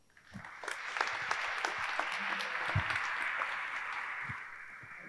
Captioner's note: audience applauding